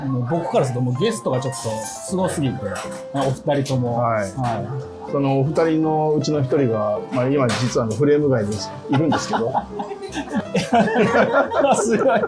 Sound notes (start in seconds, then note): 8.8 laughing